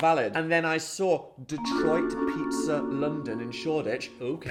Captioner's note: graphic chiming